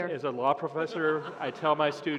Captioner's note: laughter